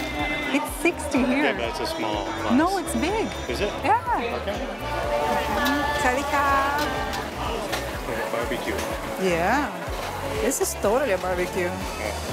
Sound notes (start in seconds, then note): 6.6 hello in Thai